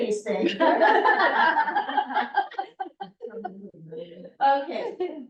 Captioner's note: laughter